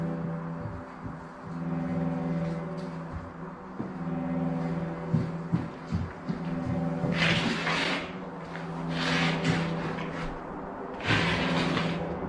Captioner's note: inexplicable footsteps